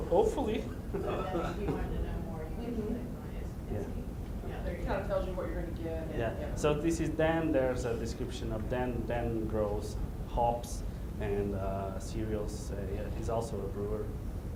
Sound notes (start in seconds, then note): 0.3 voiceover; 3.7 talking in background; 5.5 voiceover